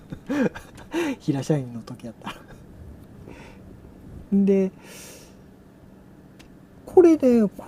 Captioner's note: laughs; laughs